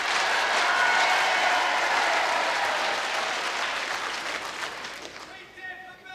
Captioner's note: applause